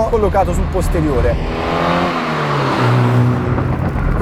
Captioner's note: engine revving gritty